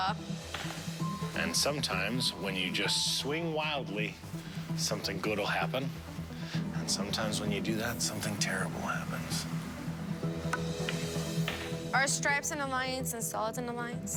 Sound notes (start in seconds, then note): none